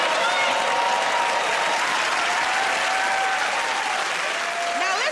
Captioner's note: cheering and applause